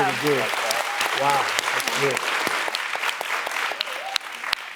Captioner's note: audience clapping